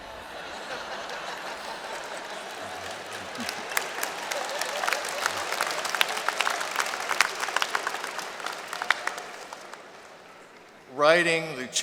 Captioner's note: laughter and Applause